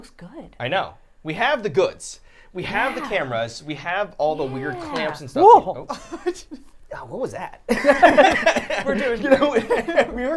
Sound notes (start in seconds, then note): 7.7 all laughing